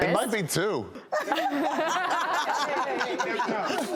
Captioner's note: laughing